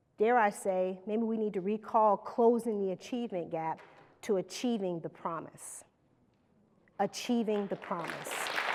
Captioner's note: applause